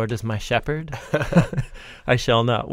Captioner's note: both chuckling